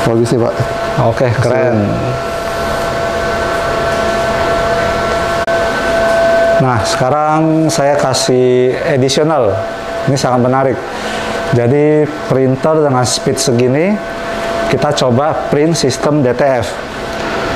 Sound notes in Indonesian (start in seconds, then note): 2.8 suara mesin printer